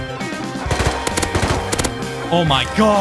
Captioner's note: triple hit